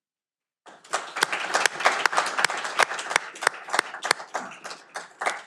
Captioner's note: audience applauding